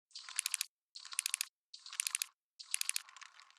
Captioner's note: rapid clicking